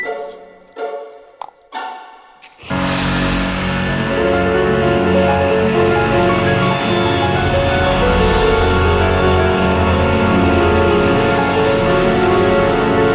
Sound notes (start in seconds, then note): 0.1 sound of tape unsealing; 2.8 spray can hissing